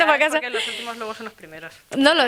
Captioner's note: laughs